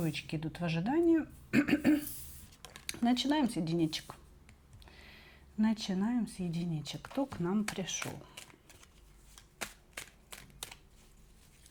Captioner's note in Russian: откашливается